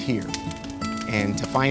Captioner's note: fire crackling